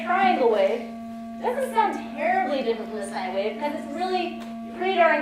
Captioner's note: tone